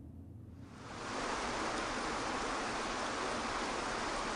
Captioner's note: water rushing